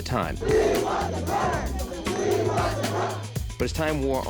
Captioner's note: crowd shouting